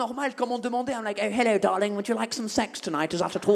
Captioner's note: posh British accent